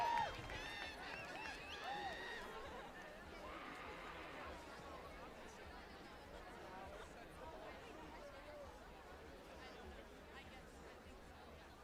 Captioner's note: applause